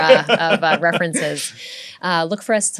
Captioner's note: laughter